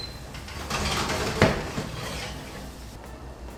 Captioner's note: rattling sound